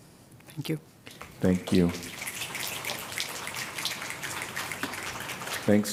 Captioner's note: applause